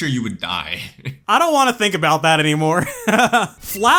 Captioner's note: laughs